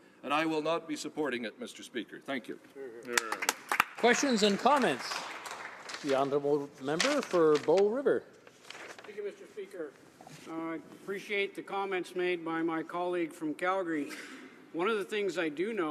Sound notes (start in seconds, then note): 7.0 some applause